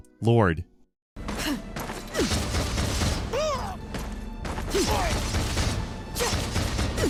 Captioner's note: character grunting; spells blasting